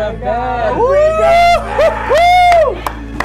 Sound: cheers; claps hands

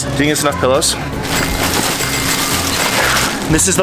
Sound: cash register chiming

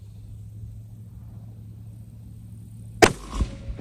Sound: report of the rifle

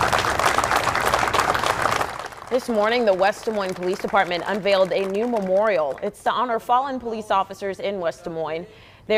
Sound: applause

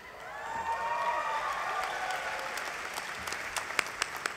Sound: applause

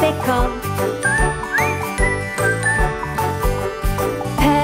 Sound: whistling

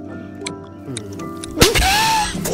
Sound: chewing; chewing noises; choking noises; bang

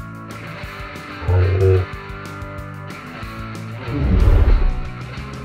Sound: fun music; dinosaurs growling

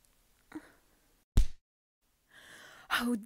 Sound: punch

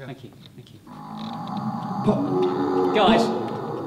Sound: sound effects roar

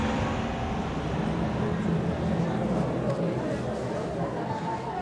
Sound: audience murmuring

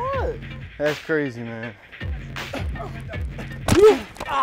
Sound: grunting, groaning

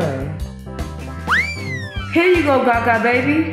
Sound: cup whistles

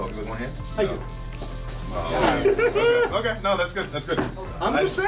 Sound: laugh

